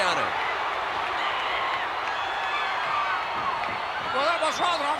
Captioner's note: applause